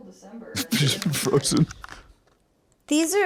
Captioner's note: laughing